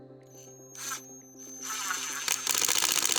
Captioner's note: screwing